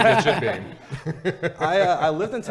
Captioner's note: laughing